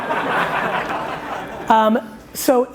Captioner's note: laughing